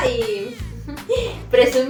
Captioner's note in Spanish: risa